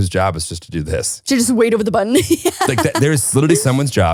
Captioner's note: laughing